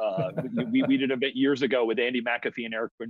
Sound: chuckles

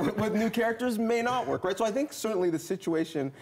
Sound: laughter

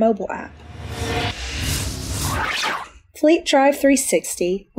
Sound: metal whooshing

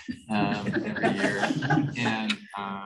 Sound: laughter

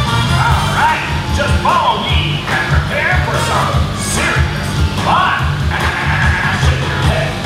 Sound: laughs

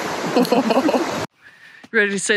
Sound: both chuckle

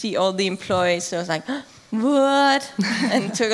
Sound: laughing

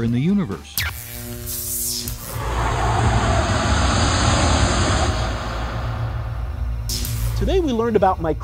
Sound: sound Effects

